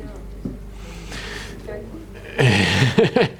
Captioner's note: audience replying; host laughing